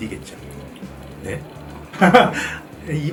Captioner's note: what? Ha ha